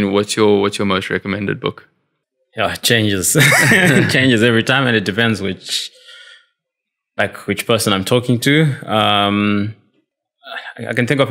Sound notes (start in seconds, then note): 3.4 laugh